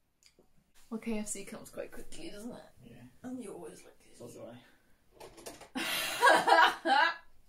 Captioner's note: laughs